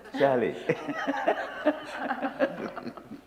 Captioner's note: laughter